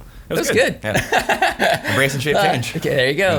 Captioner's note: laughing